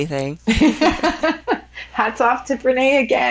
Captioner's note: women laughing